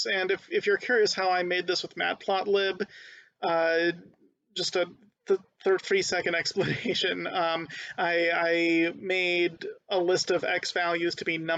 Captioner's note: laughing